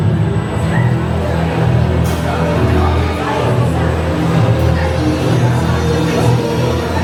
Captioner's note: dark music plays; people chatter